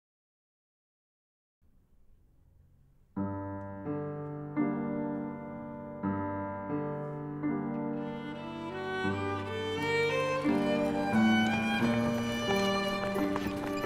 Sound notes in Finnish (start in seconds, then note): 2.5 rauhallista pianomusiikkia; 9.6 ihmisten kävelyä, hevoskärryt